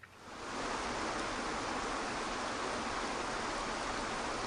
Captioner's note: water gushing